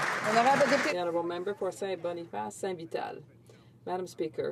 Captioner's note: some Applause